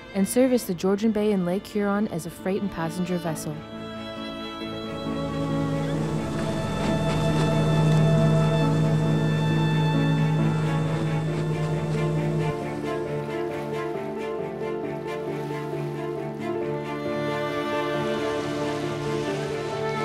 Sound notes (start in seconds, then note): 5.6 boat motor; 7.3 waves splash; 13.5 water lapping